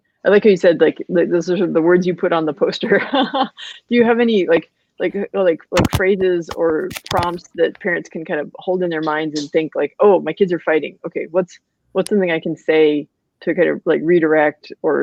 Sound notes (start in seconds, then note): 2.8 laughs